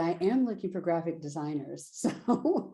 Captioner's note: laughter